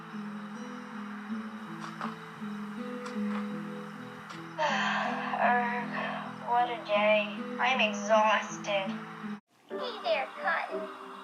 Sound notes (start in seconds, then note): 4.6 sighs in exahaustion